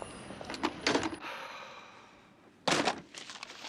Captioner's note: Menghela napas